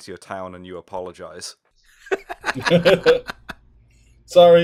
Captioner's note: laughter